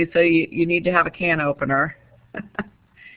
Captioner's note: chuckles